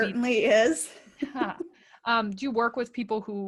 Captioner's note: laughing